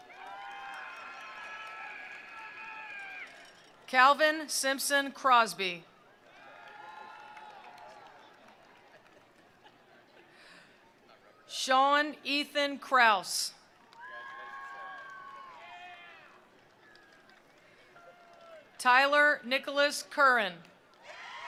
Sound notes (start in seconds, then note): 0.0 attendees applauding; 0.0 attendees cheering; 6.2 attendees cheering; 6.2 attendees applauding; 13.9 attendees cheering; 13.9 attendees applauding